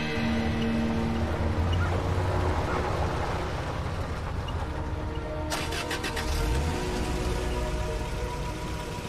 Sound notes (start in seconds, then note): 0.8 music fades; 1.5 car moving away; 5.5 engine starting